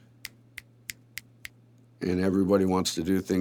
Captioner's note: snaps fingers